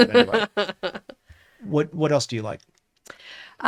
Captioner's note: laughs